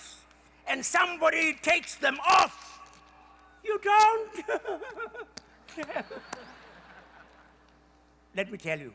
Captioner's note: Tutu imitates polite applause